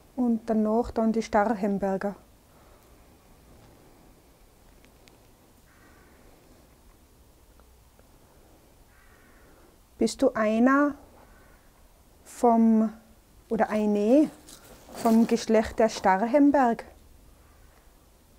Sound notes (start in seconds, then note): 2.3 wind in the background